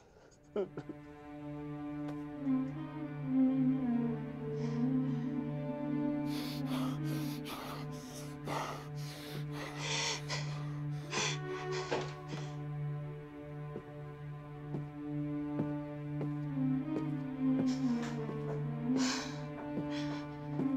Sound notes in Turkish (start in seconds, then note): 0.0 Ağlıyor; 6.2 Sinirle Nefes Alıp Veriyor; 9.7 Ağlıyor; 15.3 Ayak Sesleri